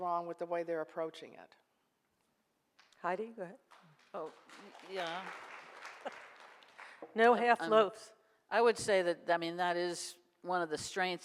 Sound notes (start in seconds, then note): 4.2 audience applause; 7.7 laughs